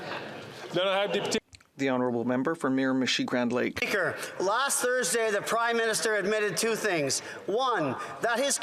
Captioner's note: chatter